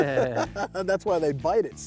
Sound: chuckles

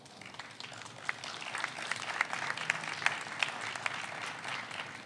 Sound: audience applauds

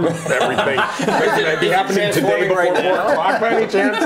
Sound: laughing

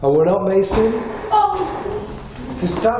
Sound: door bangs loudly; shouts

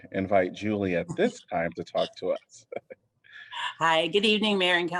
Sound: laughter

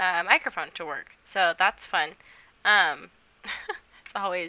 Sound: chuckles

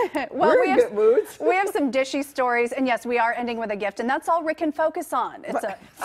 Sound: laughter

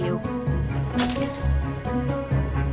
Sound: glass breaks

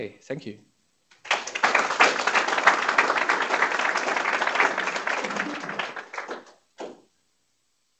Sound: applause

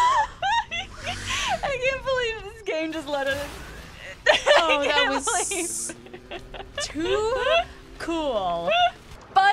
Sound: laughs

